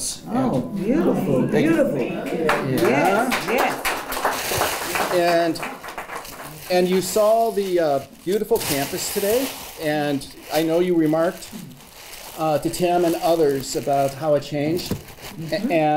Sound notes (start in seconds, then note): 2.2 applause